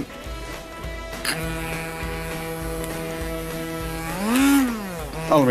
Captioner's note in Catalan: túrmix: s'accelera i es desaccelera